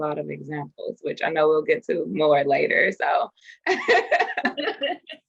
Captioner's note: both laugh